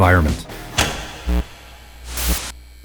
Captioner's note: switch clicks; electricity buzzing